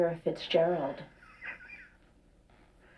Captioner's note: laughing